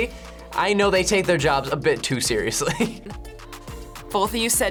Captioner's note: laughs